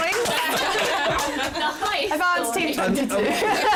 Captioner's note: laughter